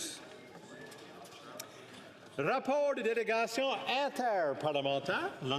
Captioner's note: speaking French